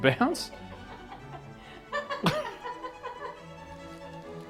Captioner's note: laughing